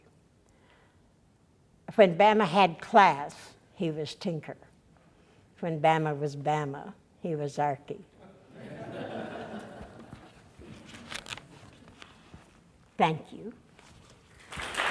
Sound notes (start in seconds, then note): 10.1 audience laughter; 14.5 audience applause